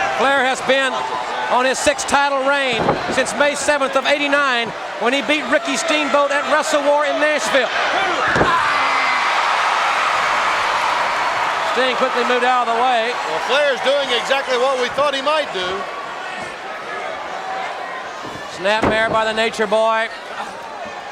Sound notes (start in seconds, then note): 7.8 Ric exclaiming; 9.7 crowd cheering